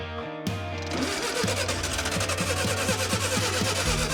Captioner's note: engine sputtering